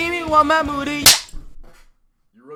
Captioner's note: belt whip